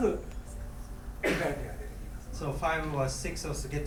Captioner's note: coughing